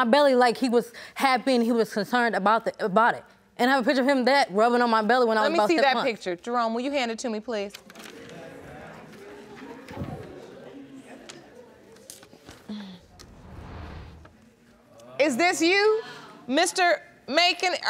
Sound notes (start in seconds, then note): 8.1 audience mumurs